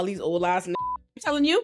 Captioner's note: beep